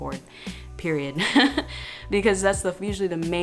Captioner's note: laughing